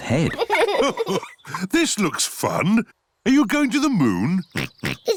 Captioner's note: chuckles; oinks